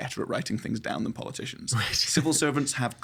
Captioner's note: chuckling